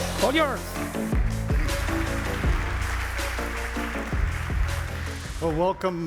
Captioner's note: applause